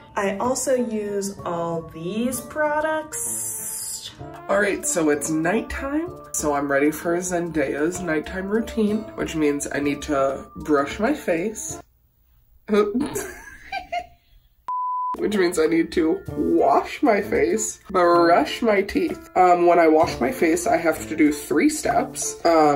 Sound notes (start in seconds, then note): 13.0 laughs; 14.7 TV beep